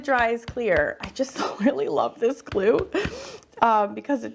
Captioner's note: chuckles